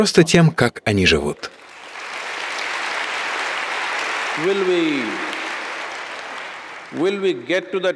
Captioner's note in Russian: апплодисменты